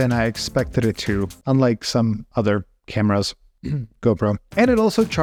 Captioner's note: clears throat